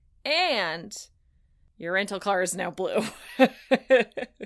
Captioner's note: laughs